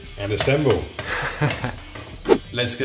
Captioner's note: spoon taps pan; laughs; whooshing